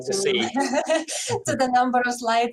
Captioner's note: laughs